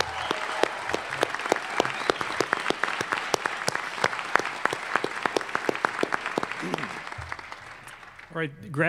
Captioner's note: applause